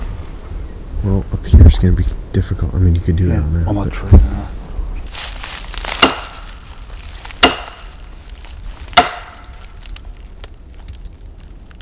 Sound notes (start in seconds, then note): 7.4 ax handle knocking